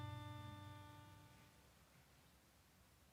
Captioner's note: none